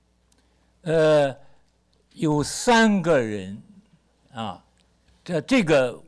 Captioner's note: speaks Mandarin